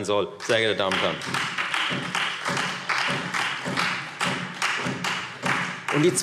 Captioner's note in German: Beifall Freie Demokraten und vereinzelt SPD